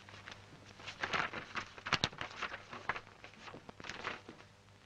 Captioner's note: paper rustling